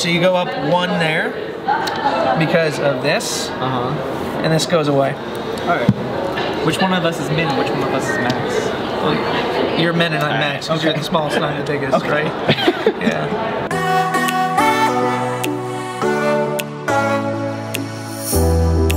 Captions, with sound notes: - Blue, so you go up one there, because of this, and this goes away. - Which one is Min, and which one of us is Max? - You're Min and I'm Max, cause you're the smallest and I'm the biggest, right? (laughs) (upbeat music)